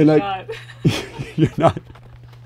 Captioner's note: laughs